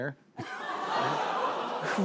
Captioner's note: audience exclaims